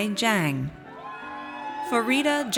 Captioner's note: audience cheers